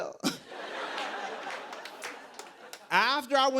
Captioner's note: laughter